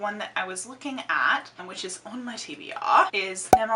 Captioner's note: english Accent; normal accent